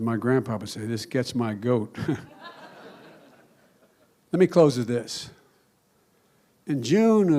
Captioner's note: laughter